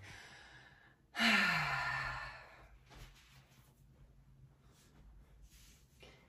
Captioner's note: deep inhale and exhale